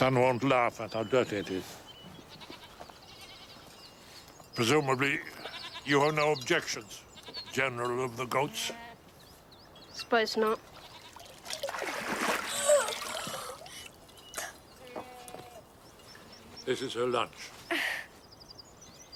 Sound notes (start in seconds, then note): 5.3 goat bleating; 12.9 gasps